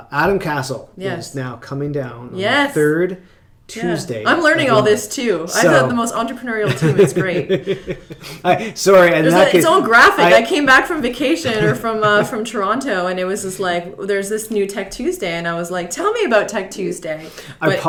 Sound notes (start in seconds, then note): 6.6 laughs